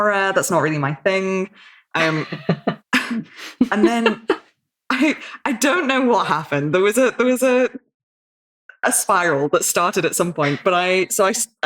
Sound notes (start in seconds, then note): 2.0 laughing